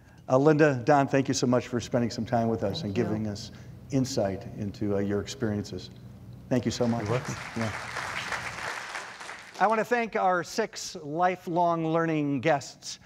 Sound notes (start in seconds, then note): 6.7 audience applauds